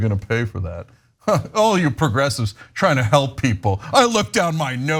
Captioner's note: laugh